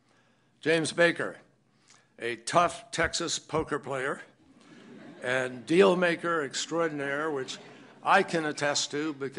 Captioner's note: laughter